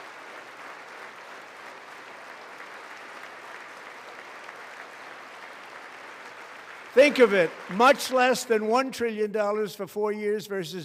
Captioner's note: applause